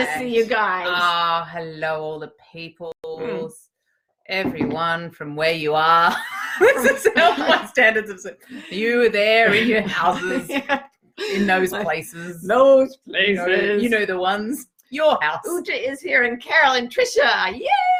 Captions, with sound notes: - It's good to see you guys! - Ah, hello all the peoples, everyone from where you are. (talking while laughing) You there in your houses, in those places. - Those places. - You know the ones. Your house. - Uja is here and Carol and Tricia. Yay!